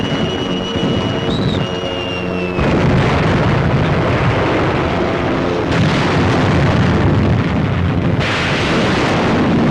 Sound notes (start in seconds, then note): 5.7 explosions